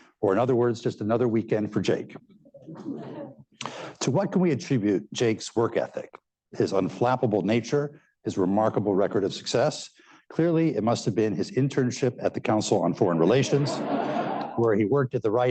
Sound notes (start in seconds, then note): 2.6 laughter; 13.4 laughter